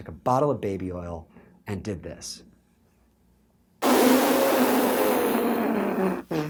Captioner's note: pfffft sound